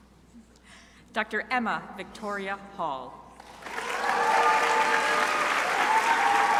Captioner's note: crowd applauding